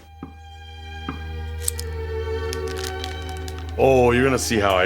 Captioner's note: classical music; plastic crinkles